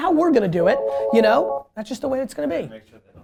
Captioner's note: phone rings